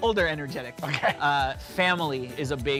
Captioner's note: laughter